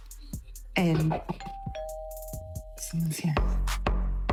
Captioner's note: doorbell rings